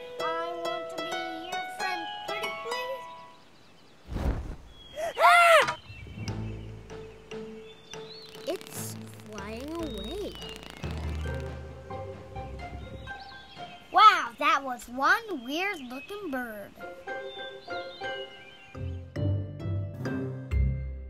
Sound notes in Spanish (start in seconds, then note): 3.8 ambos gritando